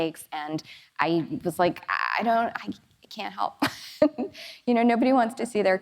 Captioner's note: laughs